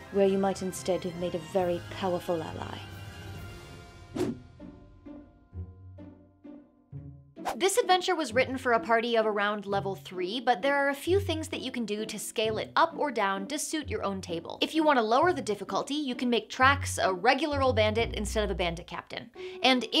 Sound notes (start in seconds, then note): 4.1 air whooshes; 4.1 soft music